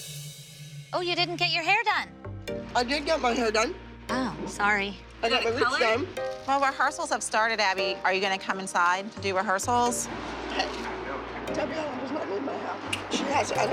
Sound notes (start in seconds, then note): 2.1 mouth full